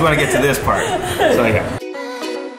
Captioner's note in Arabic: يضحك